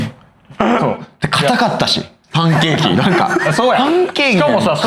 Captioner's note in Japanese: 笑い